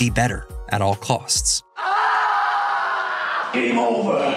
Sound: screaming

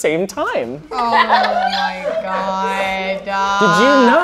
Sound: all laughing

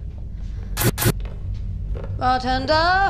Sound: static noise

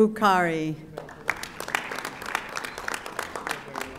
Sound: audience applauding

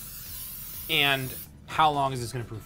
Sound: can sprays

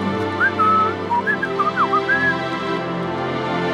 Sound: whistles

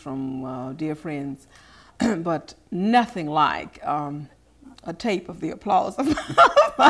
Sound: laughing

